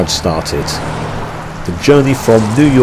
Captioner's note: car engines revs